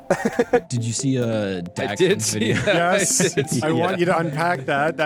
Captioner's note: laughs; laughs